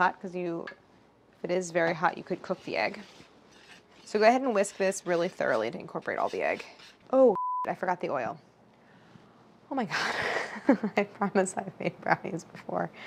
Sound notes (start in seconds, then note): 7.3 beep; 10.3 laughing